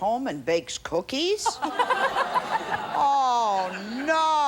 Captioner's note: all laugh